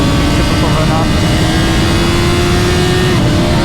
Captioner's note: alien noises